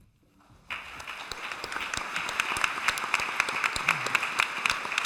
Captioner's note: applause